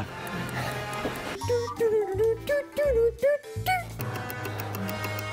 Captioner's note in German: Er summt eine Melodie; Uhren-Ticken